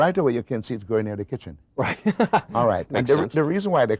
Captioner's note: laughs